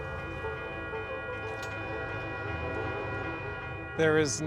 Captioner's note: train bells ringing